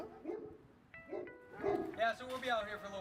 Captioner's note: dogs barking